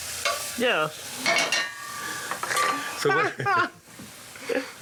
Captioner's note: laughs